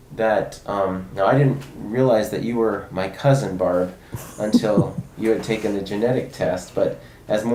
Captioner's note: chuckles softly